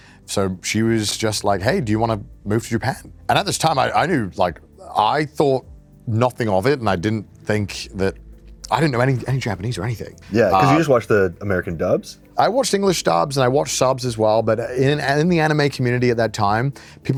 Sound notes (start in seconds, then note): none